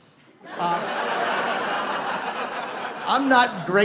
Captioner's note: audience laughs